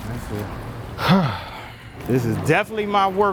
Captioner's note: sighing